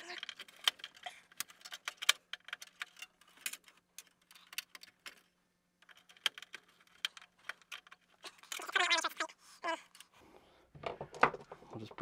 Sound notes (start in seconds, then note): 1.3 tools clinking; 8.8 tape fast-forwarding